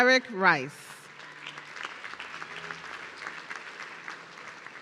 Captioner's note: audience clapping